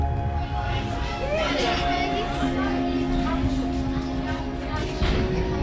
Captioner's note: children chattering